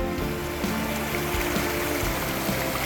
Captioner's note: sound of mountain stream